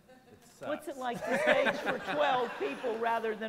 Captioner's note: laughter